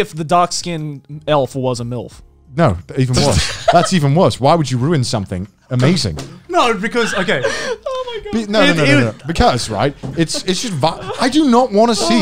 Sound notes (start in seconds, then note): 3.2 laughs